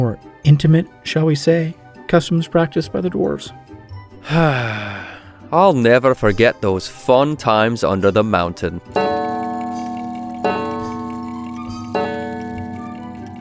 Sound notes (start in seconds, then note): 4.2 happy sigh; 8.9 grandfather clock chimes